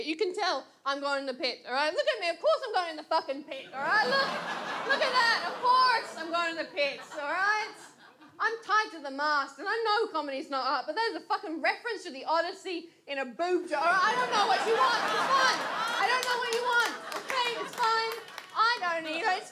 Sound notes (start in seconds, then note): 3.6 audience laughs; 13.9 audience laughs; 17.6 audience laughs and applauds